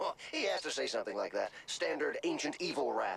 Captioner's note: laughs